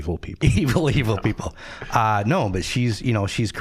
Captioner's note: chuckling